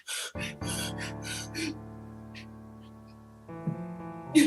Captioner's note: Mercutio gasping